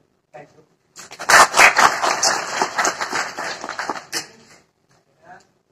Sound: claps

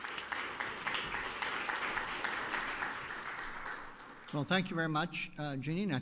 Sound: applause

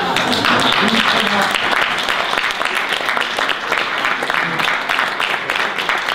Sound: audience applause

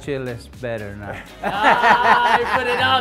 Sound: laughs

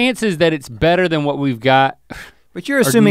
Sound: scoffs

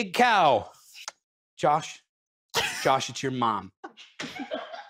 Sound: phone call voice

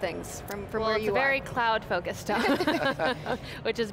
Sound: laughter

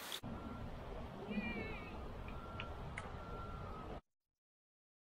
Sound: clapping

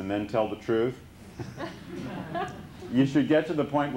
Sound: laughter

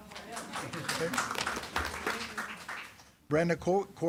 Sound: attendees clapping

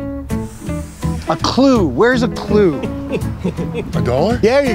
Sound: laughing

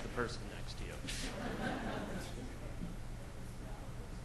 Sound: laughs

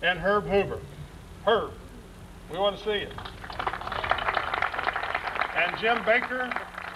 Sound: applause

